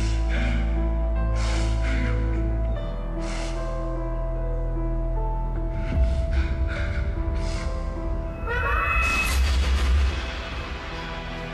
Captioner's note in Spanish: Sollozos